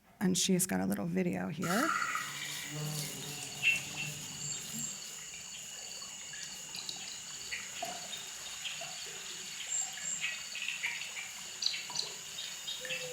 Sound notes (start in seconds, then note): 4.1 dripping sounds